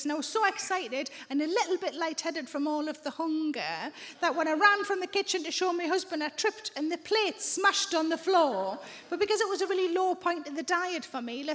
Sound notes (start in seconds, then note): none